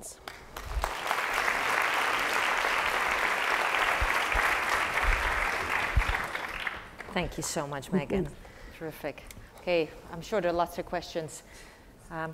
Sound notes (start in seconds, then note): 0.0 applause; 8.4 laugh